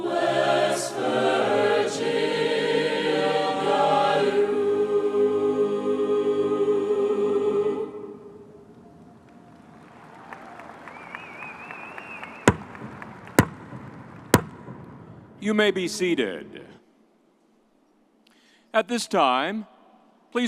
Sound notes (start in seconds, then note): 8.7 audience applauds; 12.4 drum tapping